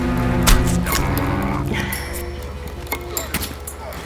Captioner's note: hand punching; dramatic music